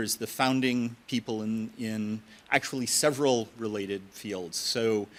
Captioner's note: none